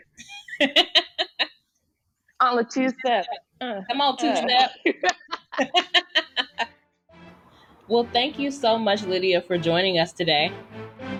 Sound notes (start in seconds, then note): 0.1 laughs; 4.5 laughter; 7.9 bright, upbeat pop music begins to play in background